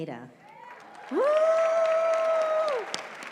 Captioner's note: cheering